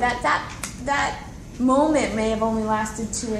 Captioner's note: none